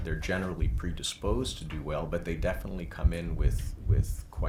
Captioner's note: none